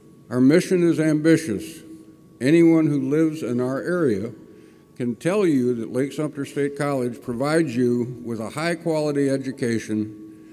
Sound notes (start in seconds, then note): none